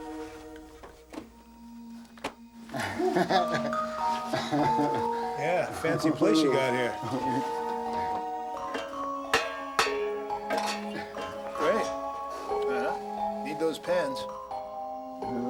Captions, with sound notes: (man chuckles) Yeah, fancy place you got here. (clanging) Great, uh-huh, need those pans.